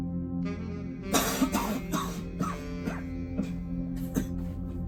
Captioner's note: Lawson coughs and retches